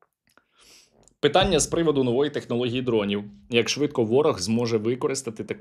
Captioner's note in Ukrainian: сопіння